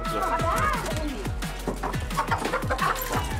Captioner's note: chicken cluck